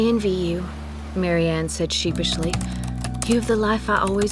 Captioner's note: typing